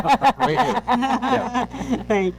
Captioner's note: laughing